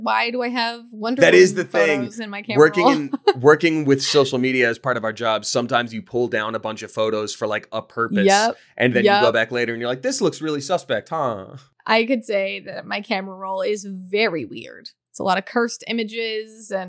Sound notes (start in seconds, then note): 2.5 laughing